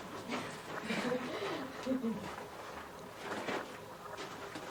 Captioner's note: girls laughing